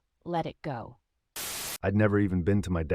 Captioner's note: static